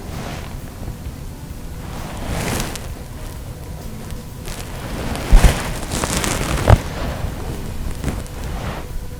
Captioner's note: sound of movement in the stand; soft music